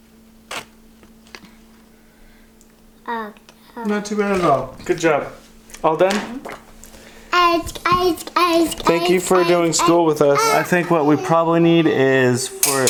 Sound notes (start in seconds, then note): 3.6 murmurs; 7.2 babbles repetitively